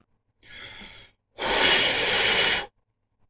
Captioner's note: exasperated blowing sounds